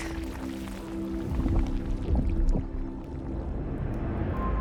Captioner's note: liquid bubbling